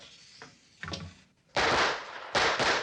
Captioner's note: gunfire